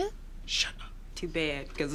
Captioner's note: whispers